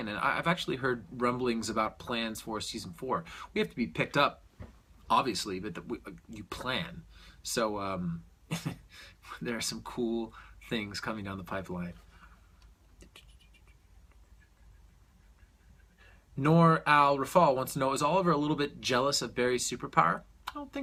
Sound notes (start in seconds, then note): 8.5 chuckles